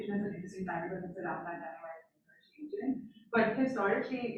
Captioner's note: faintly speaking